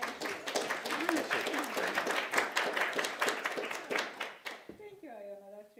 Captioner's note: applause